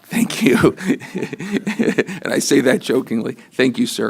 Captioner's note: laughter